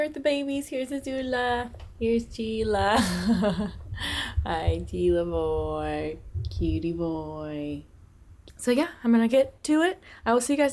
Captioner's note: laughter